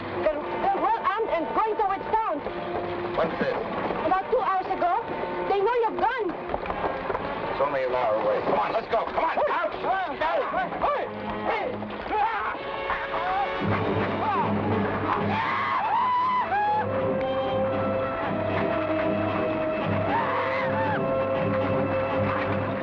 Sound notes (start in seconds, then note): 9.4 men shout; 13.8 men shout; 17.9 thrilling music